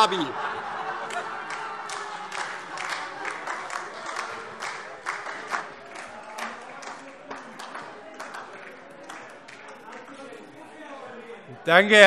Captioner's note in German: Heiterkeit und Beifall DIE LINKE